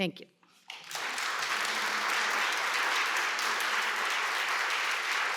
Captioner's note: applause